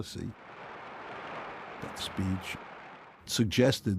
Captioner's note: audience applauding